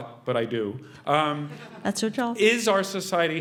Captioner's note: laugh